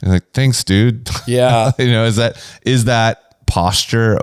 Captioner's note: laughs